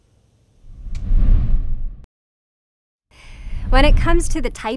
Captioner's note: air whooshes